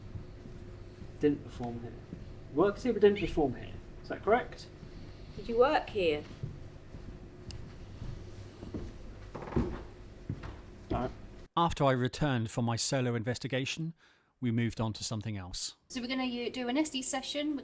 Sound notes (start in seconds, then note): 7.6 heavy footfalls; 9.1 stairs creaking